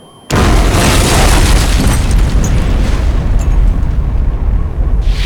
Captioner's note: explosion!